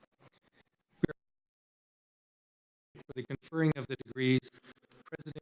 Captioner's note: audio cuts out